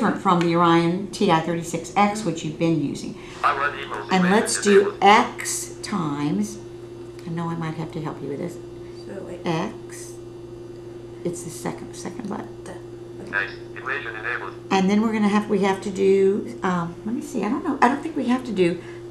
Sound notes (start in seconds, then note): 3.4 calculator talking in background